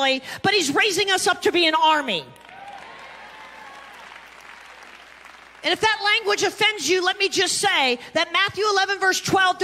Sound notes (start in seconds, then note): 2.3 congregation clapping and cheering